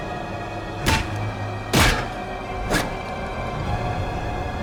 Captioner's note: head thuds